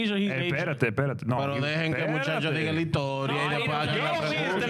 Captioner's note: speaking In Foreign Language